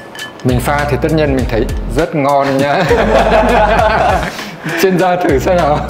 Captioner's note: laugh